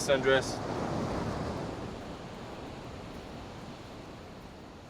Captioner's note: waves continue crashing